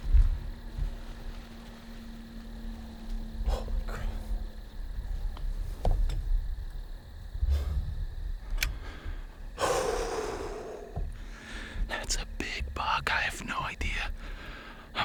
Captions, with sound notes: Holy crap. (exhales) That's a big buck. I have no idea.